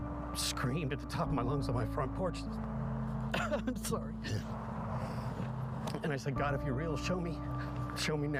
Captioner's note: crying